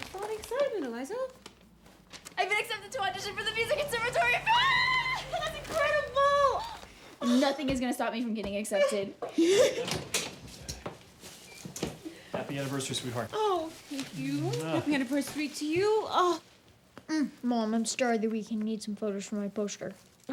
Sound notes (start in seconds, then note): 5.0 mom yells happily; 8.7 Mom laughs